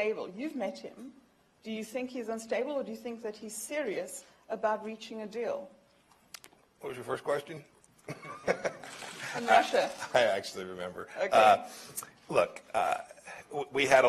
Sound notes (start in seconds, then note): 8.0 laughter